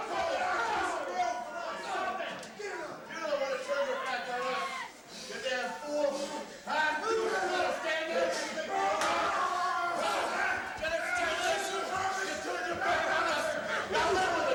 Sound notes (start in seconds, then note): 9.8 everyone grunting